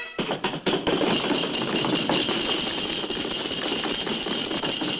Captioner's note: pounding table; bagpipes end